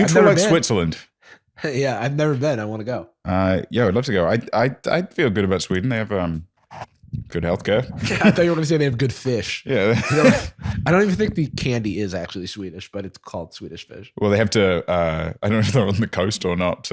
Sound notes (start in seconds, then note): 9.7 laughs